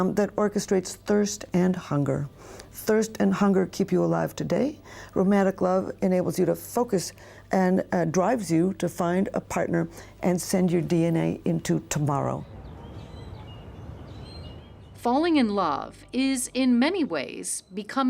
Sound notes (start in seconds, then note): 11.6 birds chirp